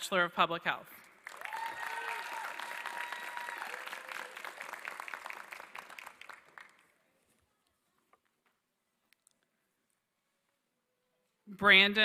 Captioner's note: applause